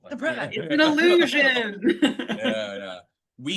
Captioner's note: laughs